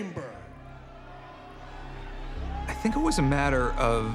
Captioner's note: laugh